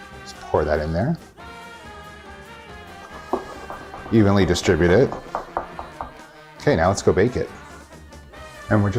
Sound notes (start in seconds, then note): 3.0 pan shaking